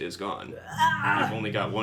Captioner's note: Liliana growls exasperatedly